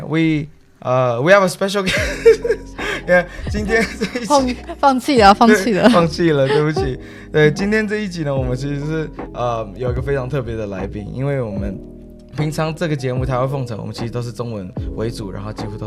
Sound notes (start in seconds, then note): 1.8 laughing; 4.0 Mandarin